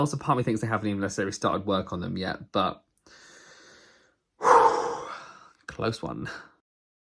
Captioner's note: exhales